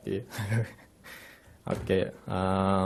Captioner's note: laughing